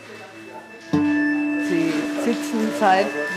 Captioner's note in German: Die Klänge werden schrill